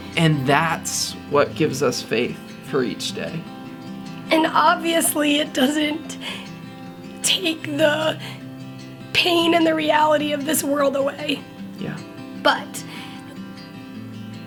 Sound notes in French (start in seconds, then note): 7.0 La voix se brise avec émotion